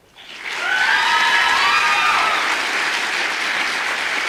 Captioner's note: audience applause